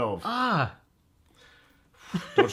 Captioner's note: laughs